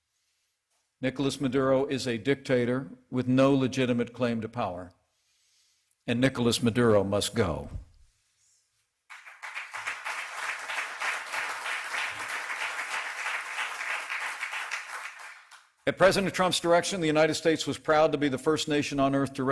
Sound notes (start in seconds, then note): 9.1 applause